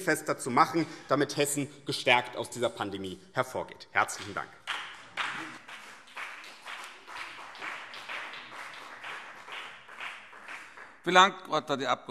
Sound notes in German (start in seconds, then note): 4.6 Beifall BÜNDNIS 90/DIE GRÜNEN und CDU